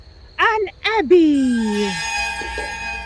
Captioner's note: dramatic sound